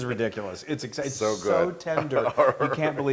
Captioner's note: laugh